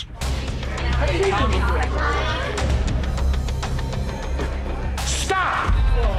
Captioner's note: restaurant patrons chattering